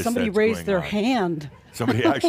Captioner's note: chuckles